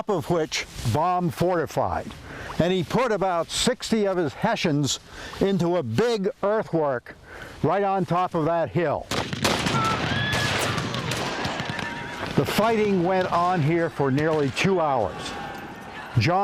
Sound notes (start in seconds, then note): 9.0 guns firing; 10.1 horses neighing